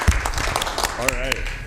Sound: applause

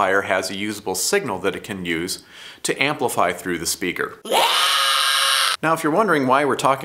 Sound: loud scream

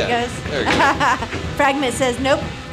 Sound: laughs

